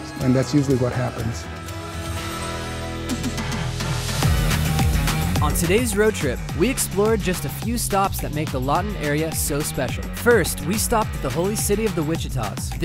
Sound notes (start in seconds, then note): 3.3 upbeat funky techno music; 5.6 voiceover